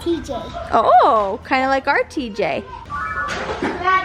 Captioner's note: laughing